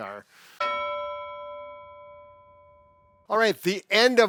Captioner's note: bell dings